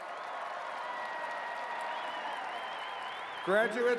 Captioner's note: cheers and applause